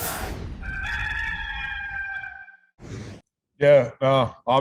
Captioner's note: rooster crows